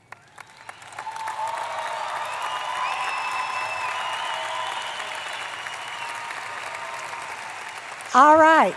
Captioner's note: applause